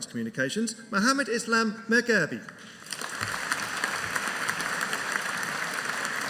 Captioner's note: audience applauding